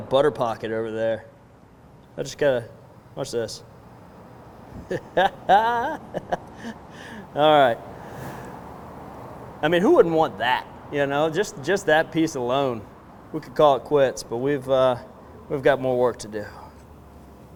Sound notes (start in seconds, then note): 4.7 laughs